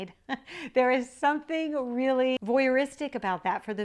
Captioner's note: laughs